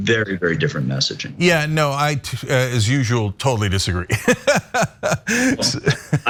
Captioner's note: laugh